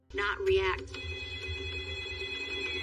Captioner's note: phone ringing